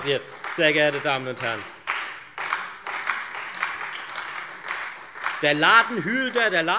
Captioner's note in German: Beifall Freie Demokraten und SPD